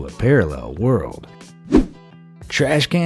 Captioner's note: air whooshing